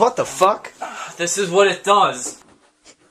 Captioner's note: sigh